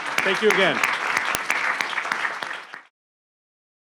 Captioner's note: all clapping